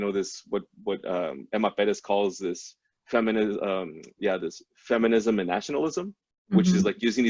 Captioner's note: foreign language spoken